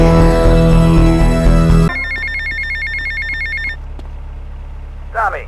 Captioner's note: phone ringing